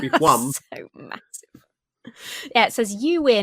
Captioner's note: laughs